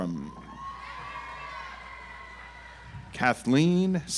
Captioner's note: audience applauds